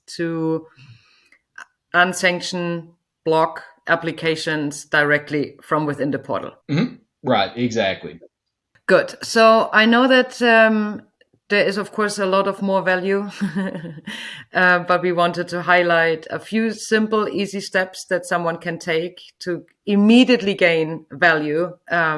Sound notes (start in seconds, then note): 13.3 chuckles